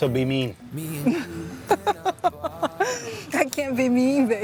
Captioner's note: laughs